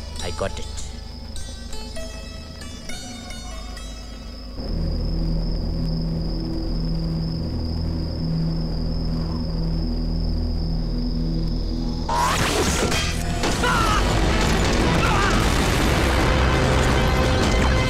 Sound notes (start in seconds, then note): 12.4 Gunshot; 15.5 Explosion